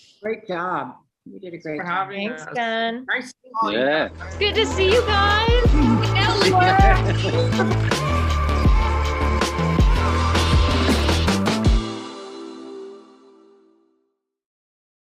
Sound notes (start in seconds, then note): 5.8 cast chattering; 5.8 upbeat music